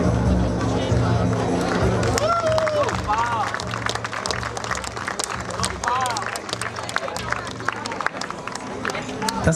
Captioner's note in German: Applaus